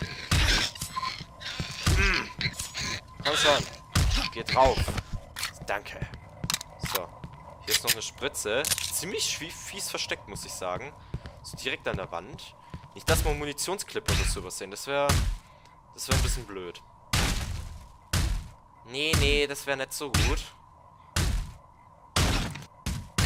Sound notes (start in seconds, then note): 1.8 more punch sounds; 5.1 Glock 17 Reload; 15.0 again punch noises again again :D; 18.1 O_o *Puunch noiisses